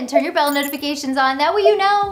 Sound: graphics blipping

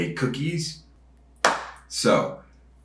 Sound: hands clapping

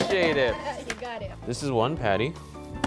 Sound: laughs

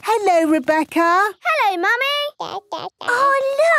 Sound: babbling

